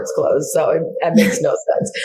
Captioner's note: laughs